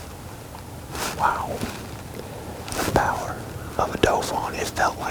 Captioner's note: whispering